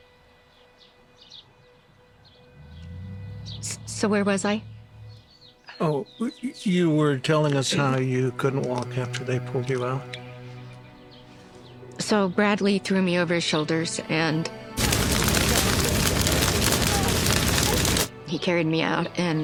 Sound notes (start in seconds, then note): 0.1 somber music; 14.7 flames crackling